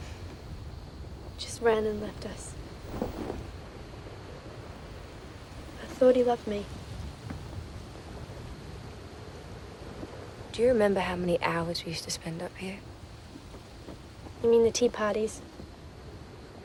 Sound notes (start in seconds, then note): none